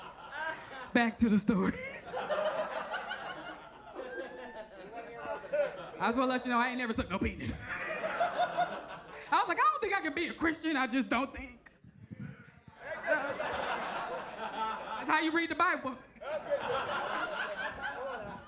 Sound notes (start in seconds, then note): 1.5 audience laughs; 12.7 audience laughs